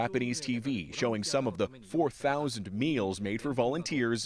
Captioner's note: speaking Foreign Language